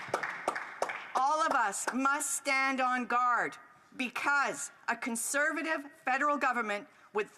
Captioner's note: applause